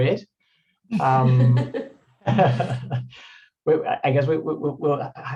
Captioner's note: everyone laughing